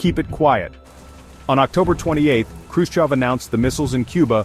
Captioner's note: voiceover